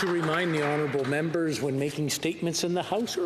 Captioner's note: applause